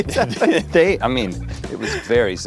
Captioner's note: both laugh